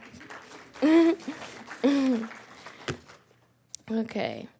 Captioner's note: audience clapping